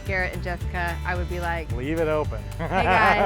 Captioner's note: laughs